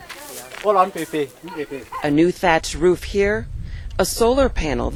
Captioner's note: cry